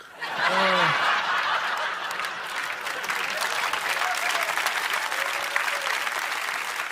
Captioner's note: audience laughs and cheers